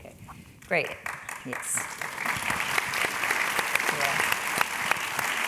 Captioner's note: applause